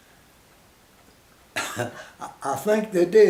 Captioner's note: chuckles